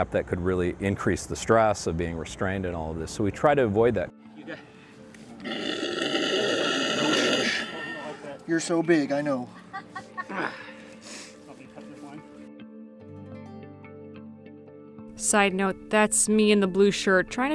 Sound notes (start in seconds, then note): 5.4 alligator growls; 9.5 woman laughing; 13.6 soft instrumental music